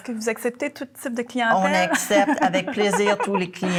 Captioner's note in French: rires